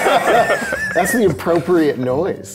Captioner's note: all laughing